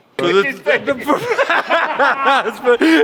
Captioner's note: all laugh